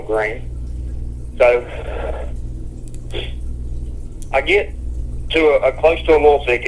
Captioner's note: sighs